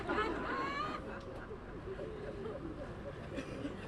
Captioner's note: laughter